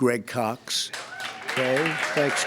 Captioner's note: applause